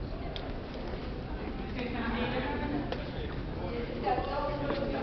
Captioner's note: indistinct conversation